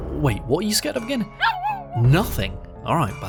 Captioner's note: Ludo barks again!